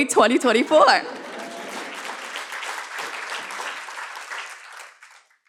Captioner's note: applause